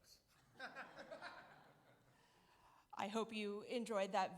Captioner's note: audience laugh